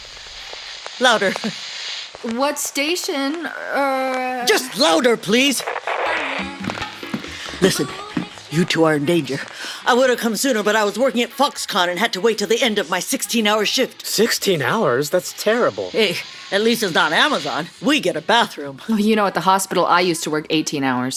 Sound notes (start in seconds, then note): 4.4 static changes to music; 7.6 whispering